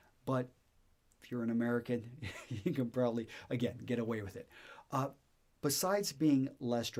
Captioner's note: chuckles